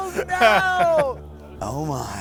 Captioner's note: both laughing